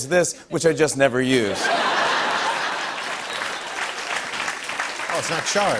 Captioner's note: laughter and applause